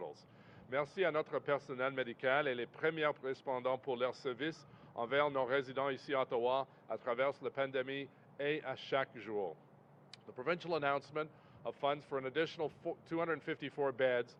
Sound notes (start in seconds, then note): 8.5 speaks French